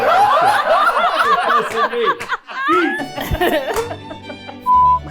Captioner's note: everyone laughing